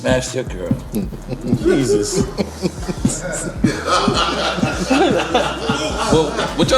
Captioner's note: laughing